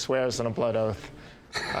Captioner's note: laughs